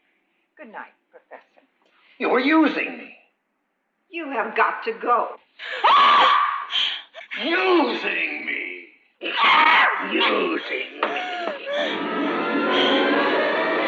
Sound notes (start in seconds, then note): 4.7 clears throat